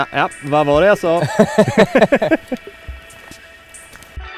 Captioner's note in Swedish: Alla skrattar